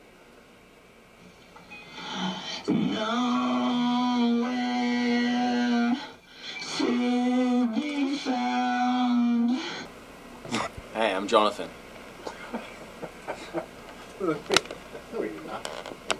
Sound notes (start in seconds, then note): 12.2 laughs